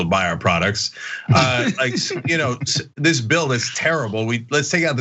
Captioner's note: laugh